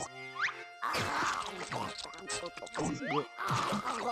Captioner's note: munching; gulping; gulping